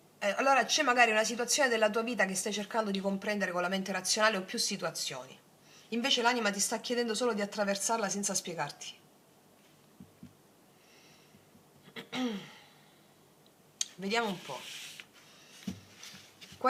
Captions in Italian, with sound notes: E allora c'è magari una situazione della tua vita che stai cercando di comprendere con la mente razionale o più situazioni, invece l'anima ti sta chiedendo solo di attraversarla senza spiegarti. [schiarire la voce] Vediamo un po'